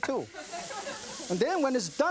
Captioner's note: audience laughing